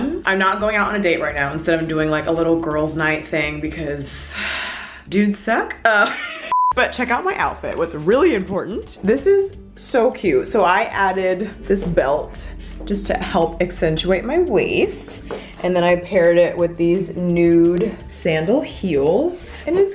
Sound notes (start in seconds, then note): 4.3 sighs; 5.9 laughs; 6.5 beeping